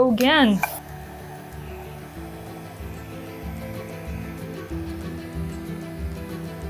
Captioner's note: blower whooshing; gentle thrilling music